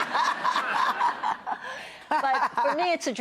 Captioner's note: laughing